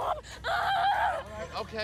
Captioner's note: screams